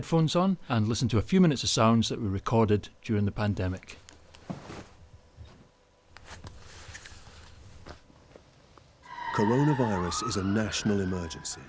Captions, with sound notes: and listen to a few minutes of sounds that were recorded during the pandemic. (sirens blaring) - Coronavirus is a national emergency.